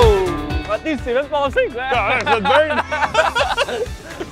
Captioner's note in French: rires